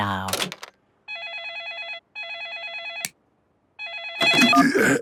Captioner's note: phone ringing